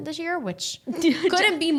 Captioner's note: laughing